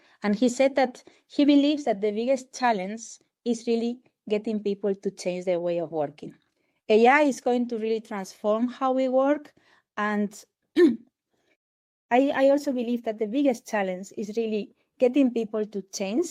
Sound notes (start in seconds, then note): 10.8 clears throat